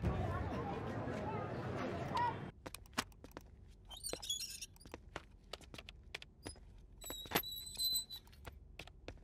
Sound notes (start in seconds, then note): 4.0 Door opens; 7.0 Door closes